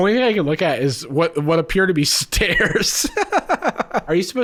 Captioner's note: laughing